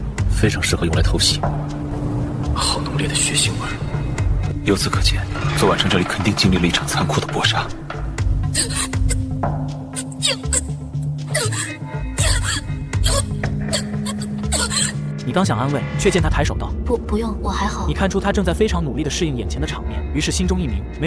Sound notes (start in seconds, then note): 8.2 ugh...ah...ah...oh...uh...uh